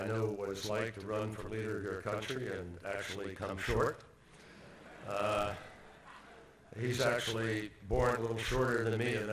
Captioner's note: laughter